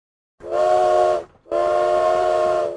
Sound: train horn

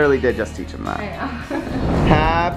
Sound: laughs

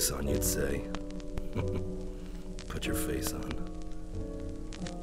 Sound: laughs

